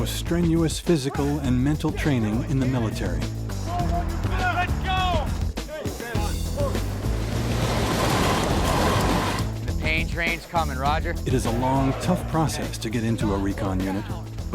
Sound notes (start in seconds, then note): 6.7 waves crashing; 11.4 voiceover